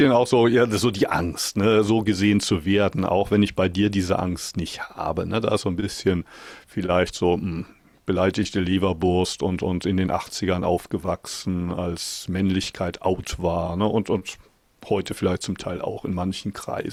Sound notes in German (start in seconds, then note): none